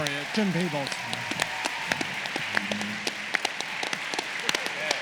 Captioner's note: applause